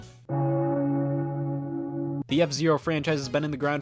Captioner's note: bell toll